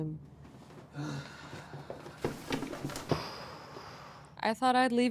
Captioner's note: Skip sighs